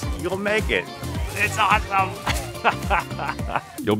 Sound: laughing

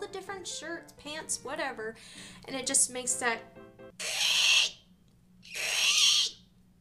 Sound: screeching sound

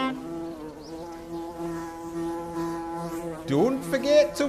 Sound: buzzing

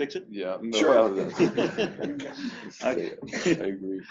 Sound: laughter

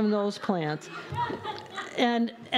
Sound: laughter

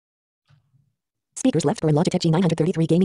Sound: automated Voice

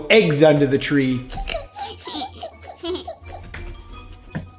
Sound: giggle

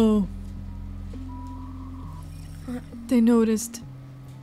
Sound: internet static

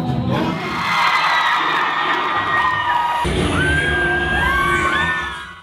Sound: crowd cheering

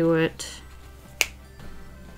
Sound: click

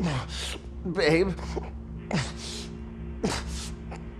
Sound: struggling to breath

